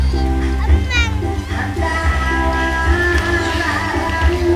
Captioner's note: child exclaims